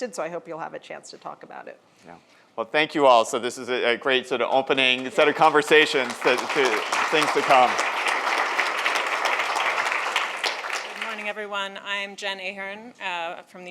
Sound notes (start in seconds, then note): 8.1 audience applauds